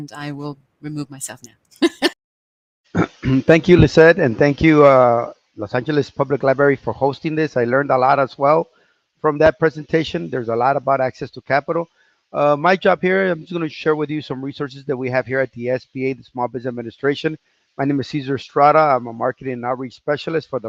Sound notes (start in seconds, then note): 1.8 laughs; 2.9 clears throat